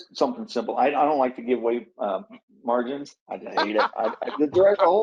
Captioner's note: laughs